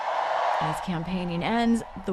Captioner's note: cheering